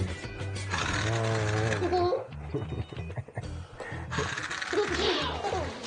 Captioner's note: humming; daughter laughing